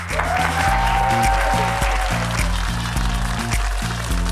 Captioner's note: audience applauding